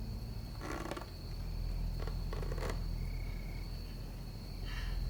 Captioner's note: floor boards creaking